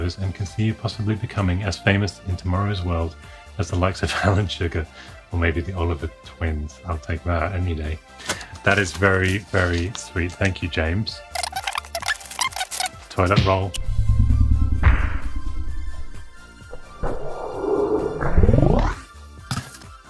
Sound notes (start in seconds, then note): 11.4 tape skipping forward; 14.6 smacking